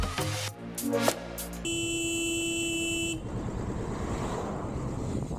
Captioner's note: bike horn sounding